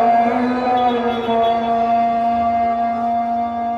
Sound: man speaking in foreign language; car beeping; man speaking in foreign language fades

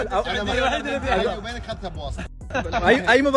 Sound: laughs

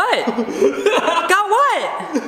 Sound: laughs

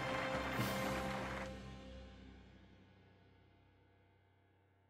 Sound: applause

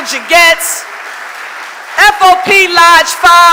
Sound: audience applauding

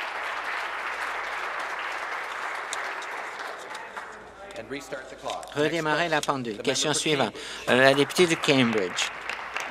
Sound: applause

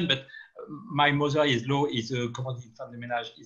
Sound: speaking in foreign language

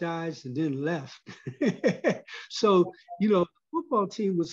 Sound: laugh

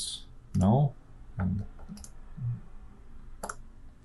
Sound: clicking

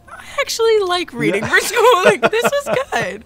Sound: laughs

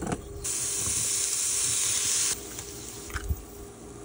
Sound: food sizzling

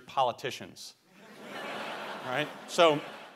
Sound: laughter

